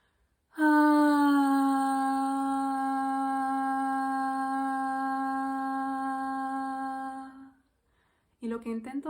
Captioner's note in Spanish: suspiro y tono